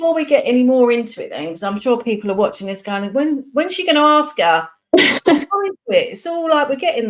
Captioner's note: laughs